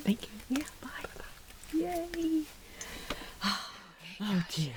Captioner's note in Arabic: شهيق